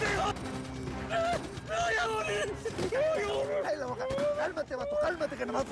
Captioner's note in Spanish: sollozos